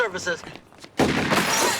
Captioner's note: firing and glass shattering